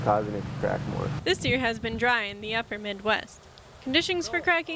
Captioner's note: voiceover